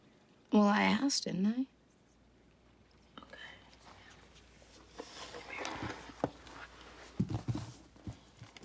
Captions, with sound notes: Well, I asked didn't I? [whispering] Okay. Come here.